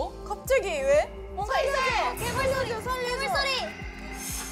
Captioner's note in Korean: 그 순간 들리는 괴물 소리